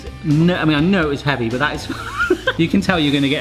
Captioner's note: laughs